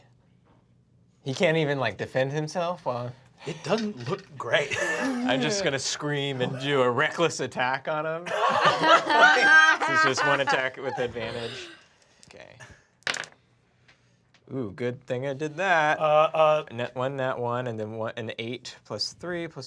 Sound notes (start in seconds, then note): 8.2 laughs; 13.0 rolls dice